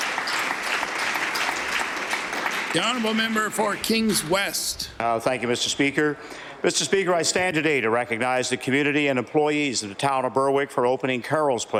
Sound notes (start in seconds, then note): 4.5 applause